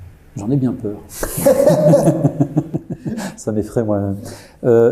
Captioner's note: laughs